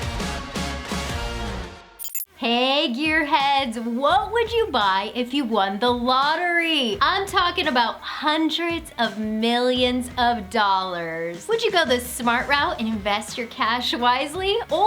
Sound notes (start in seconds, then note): 1.4 music ending; 2.0 electronic beeping